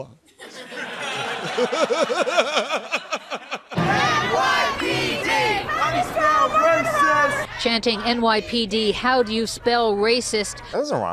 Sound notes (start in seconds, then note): 0.2 laughter; 3.7 demonstrators chanting